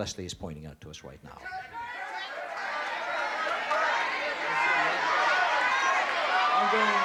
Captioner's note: audience yelling